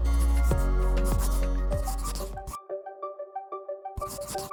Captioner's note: pencil scratching